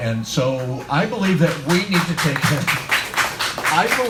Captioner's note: audience claps